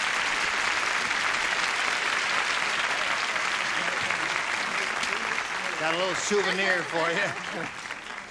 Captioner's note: applause